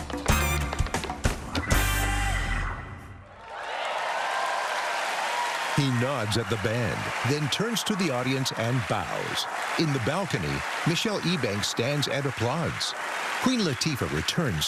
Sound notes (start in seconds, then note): 2.1 song ends; 3.5 cheering and applause